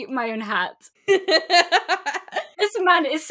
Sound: laughs

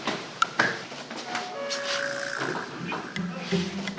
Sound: ding dong

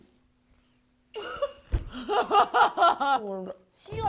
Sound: fail to hold in laughter

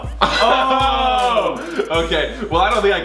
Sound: laughs loudly

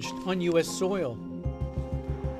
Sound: speaking spanish

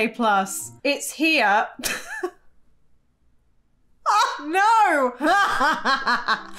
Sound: laughs; chuckling

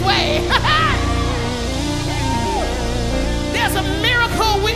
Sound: audience cheers

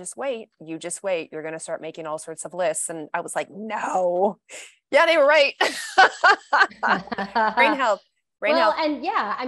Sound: laughs

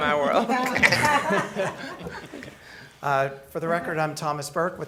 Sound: laughing

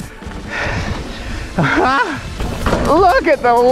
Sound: chuckles

